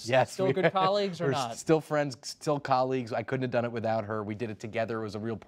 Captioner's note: laughs